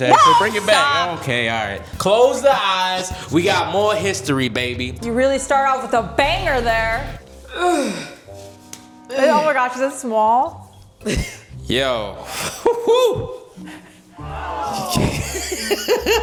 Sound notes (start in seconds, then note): 7.5 groaning; 14.3 laughing